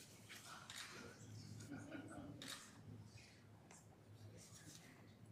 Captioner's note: camera shuttering